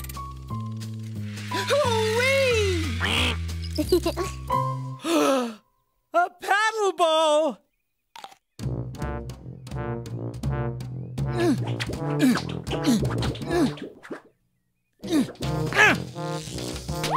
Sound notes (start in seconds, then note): 2.2 giggling; 5.0 gasp; 11.3 grunts of effort